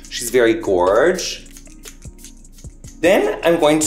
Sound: water being sprayed

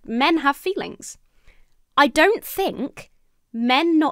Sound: none

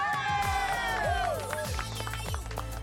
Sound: cheering

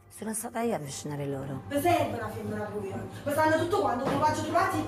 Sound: speaking in Italian

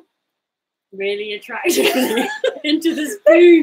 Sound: both laughing

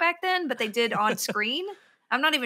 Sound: laughs

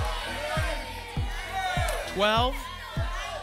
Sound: audience shouting numbers

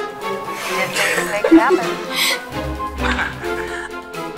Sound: both laughing; Attorney Laport chuckles

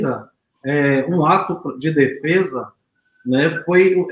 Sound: speaks portuguese

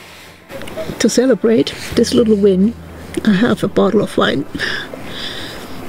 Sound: laughs

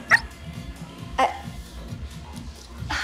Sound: dog yips

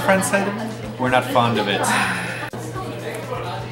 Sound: sad sigh

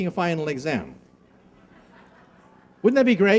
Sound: laughing

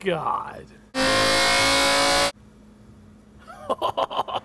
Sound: car engine revving crescendos; laughing

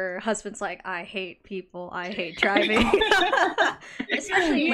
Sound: laughs

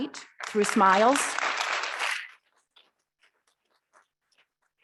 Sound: audience clapping

